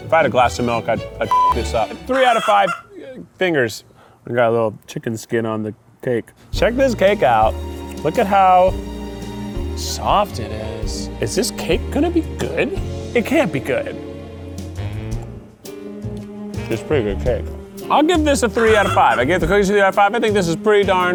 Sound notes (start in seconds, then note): 1.3 beep; 2.1 chicken bawks; 16.5 upbeat music